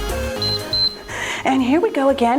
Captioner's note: timer beeps